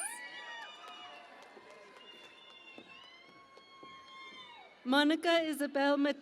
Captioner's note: cheering and Applause